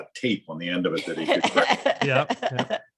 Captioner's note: laughs